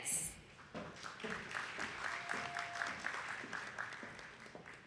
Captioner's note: attendees clapping